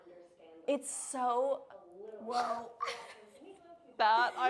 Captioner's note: laughing